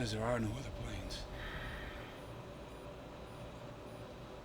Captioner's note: Nick Sighs